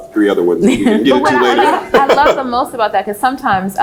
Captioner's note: laughs